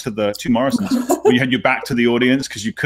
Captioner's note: laughing